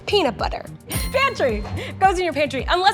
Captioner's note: bell chimes